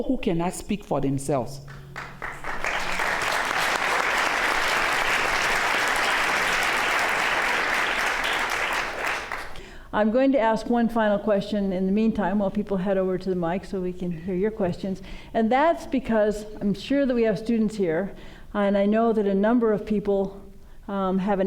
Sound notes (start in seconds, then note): 5.6 applause